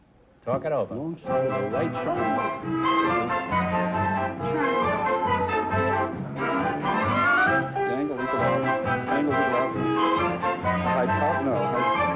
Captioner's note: whispering